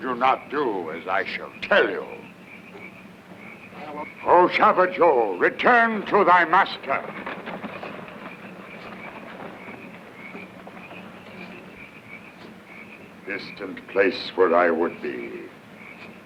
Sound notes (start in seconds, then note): 4.2 speaks in foreign language